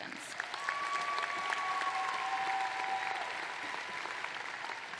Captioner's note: applause